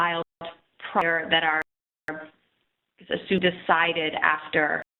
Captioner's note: audio skips